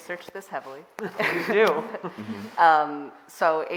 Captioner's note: all laughing